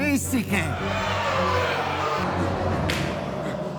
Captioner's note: crowd protests angry